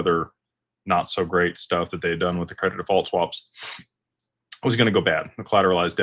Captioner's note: snorts